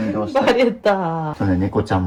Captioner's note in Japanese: 笑い